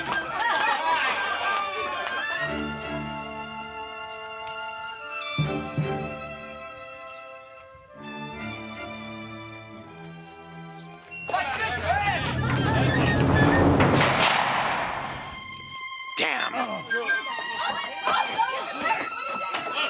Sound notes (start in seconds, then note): 13.9 gunshot